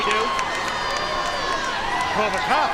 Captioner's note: spectators cheering